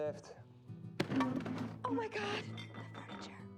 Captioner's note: loud bang